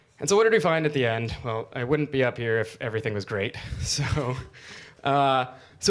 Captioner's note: chuckles